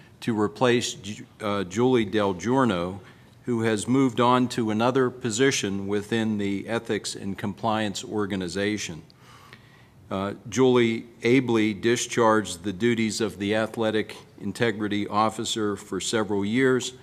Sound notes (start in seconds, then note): none